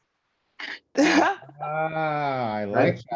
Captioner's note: laughing